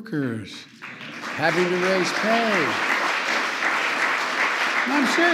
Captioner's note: applause